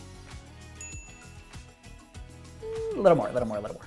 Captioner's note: bell dinging